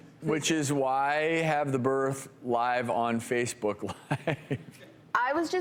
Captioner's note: chuckles